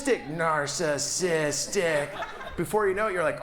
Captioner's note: audience laughs